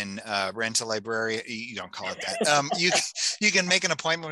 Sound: laughing

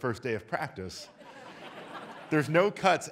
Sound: audience laughs

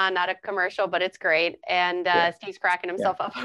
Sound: laughing

